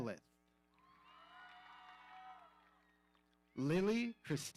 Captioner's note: audience cheering